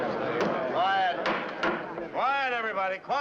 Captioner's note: banging